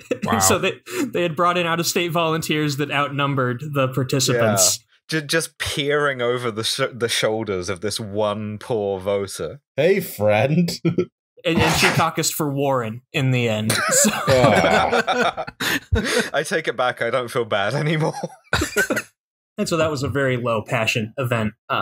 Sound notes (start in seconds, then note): 13.8 derisive laughter; 17.7 laughter